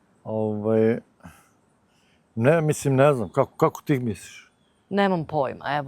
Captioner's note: coughs